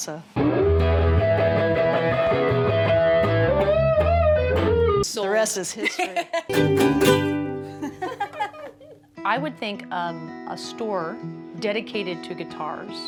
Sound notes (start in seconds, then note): 0.4 guitar solo; 5.7 laughs; 7.7 laughter